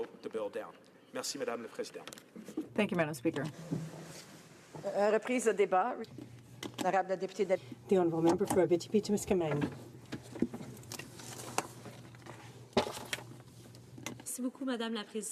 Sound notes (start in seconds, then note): 7.4 speaking French